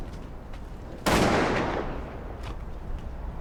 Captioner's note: gun shot